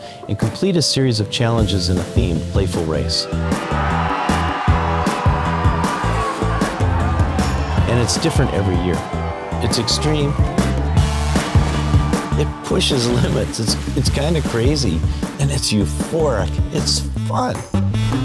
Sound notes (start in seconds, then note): 3.7 energetic music continues; 3.7 students cheering; 18.0 energetic music continues